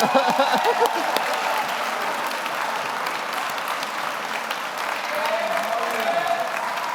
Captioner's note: laughs; audience applauds; audience cheers